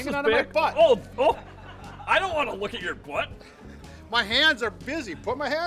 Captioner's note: laughing